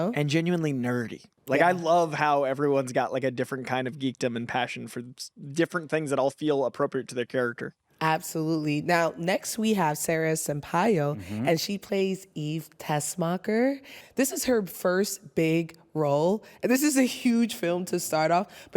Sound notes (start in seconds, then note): none